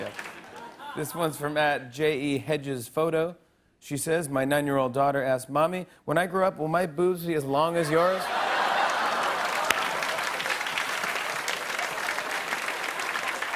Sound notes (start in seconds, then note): 7.8 laughter and applause